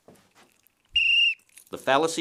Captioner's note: blows whistle